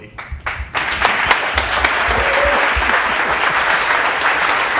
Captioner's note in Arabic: الضيوف يصفقون